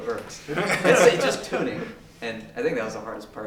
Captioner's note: laugh